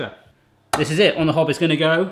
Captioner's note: hand slaps